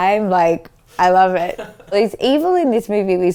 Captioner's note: laughs